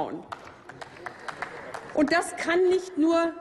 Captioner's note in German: Applaus